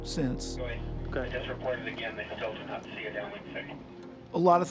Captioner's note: navigators chattering